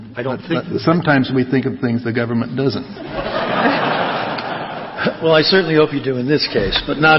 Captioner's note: laughter